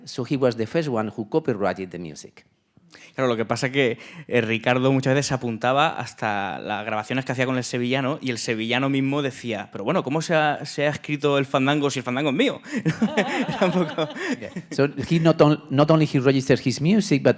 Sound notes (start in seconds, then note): 3.4 speaking in Spanish; 12.6 laughing